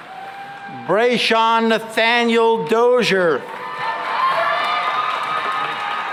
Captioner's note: cheering and applause